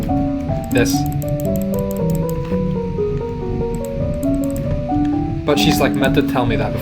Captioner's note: clicking